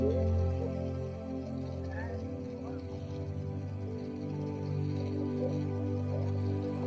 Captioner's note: gentle music continues; tourists chattering